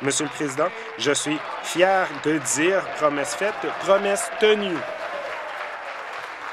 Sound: applause

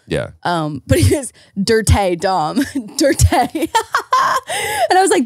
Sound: laughs

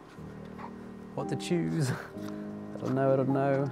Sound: light chuckle

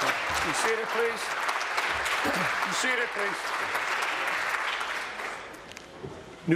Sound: applause

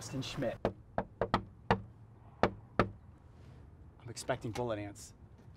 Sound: knocking

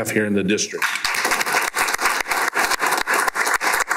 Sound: applause

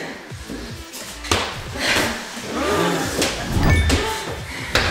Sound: ball bouncing

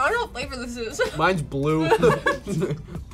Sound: laughs

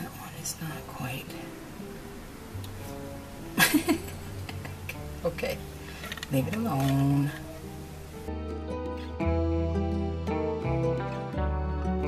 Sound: laughing

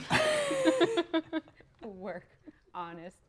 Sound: players laughing

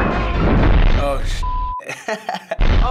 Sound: laughs; kaboom!

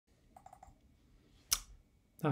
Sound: mouse clicking

